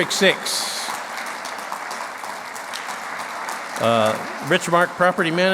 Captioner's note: clapping